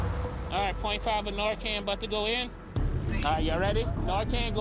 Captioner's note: none